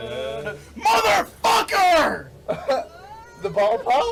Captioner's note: motherfucker!